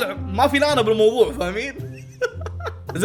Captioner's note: laughs